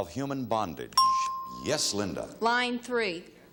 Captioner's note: bell chimes